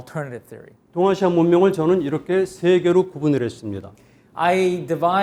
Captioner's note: speaking in Korean